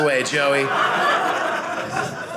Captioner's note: audience laughing